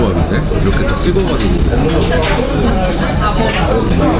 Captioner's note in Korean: 크와아아앙